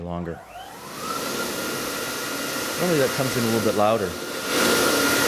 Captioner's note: hand dryer noise